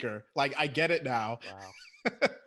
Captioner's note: laughs